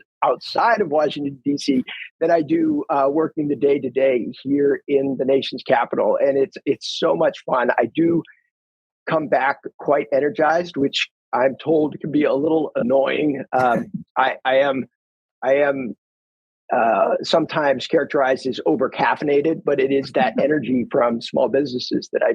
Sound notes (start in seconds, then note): 13.5 laughs